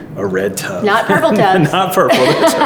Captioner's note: laughs